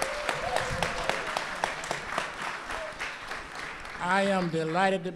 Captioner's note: applause